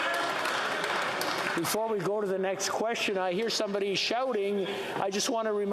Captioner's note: yelling